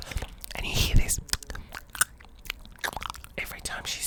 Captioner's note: mouth noises